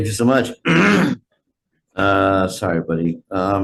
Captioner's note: clears throat